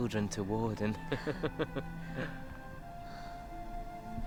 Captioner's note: laughing